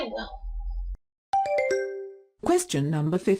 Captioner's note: question ding